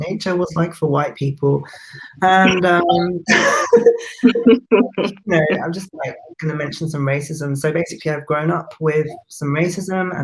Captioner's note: both laugh